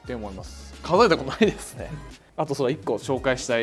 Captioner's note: laughter